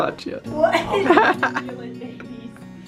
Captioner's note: chuckling